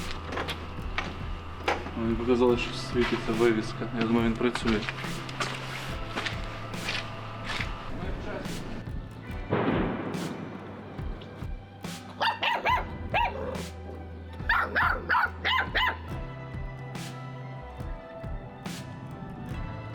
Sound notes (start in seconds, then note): 9.2 explosions heard in the background